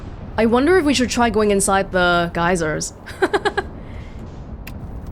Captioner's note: laughs